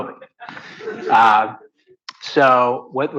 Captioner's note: audience laughs